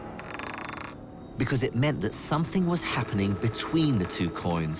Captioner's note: voiceover